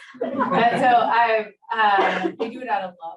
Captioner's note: audience laughs